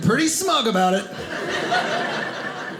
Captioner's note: audience laughing